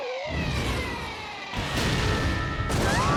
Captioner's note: explosion